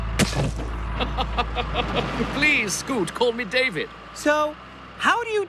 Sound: chuckling

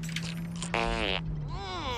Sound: farting noise

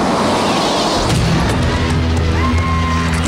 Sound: fire explodes; native music

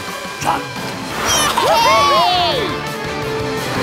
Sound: cheering

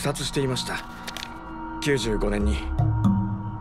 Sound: paper rustles

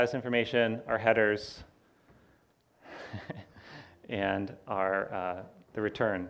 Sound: laughs

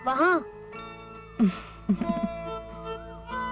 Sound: chuckles

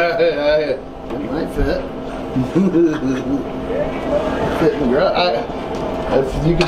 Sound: laughs

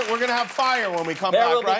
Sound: cheers and applause

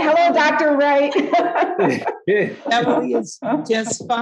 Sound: laughing

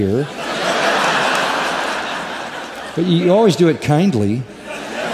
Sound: laughter

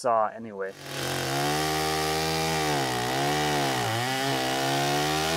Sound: chainsaw engine roaring

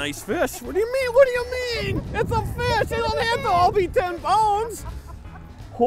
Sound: laughing

